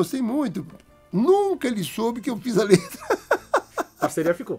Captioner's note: laughs